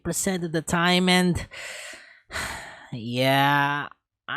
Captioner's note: sigh